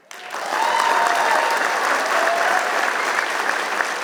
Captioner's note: applause